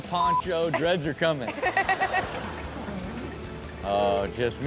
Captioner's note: Chanel and audience laugh